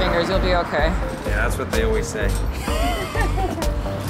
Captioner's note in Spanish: Risas